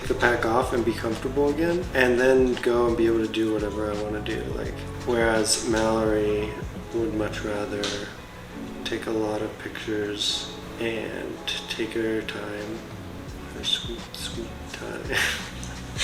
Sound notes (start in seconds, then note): 15.2 laughs